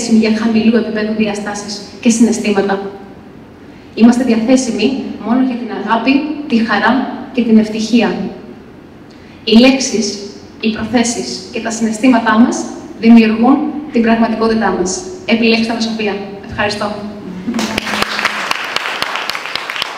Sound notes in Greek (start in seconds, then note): 17.5 χειροκρότημα